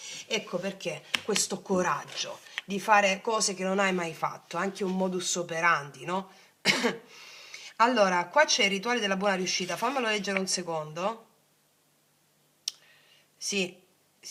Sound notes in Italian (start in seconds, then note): 6.7 schiarire la voce; 7.1 sbuffare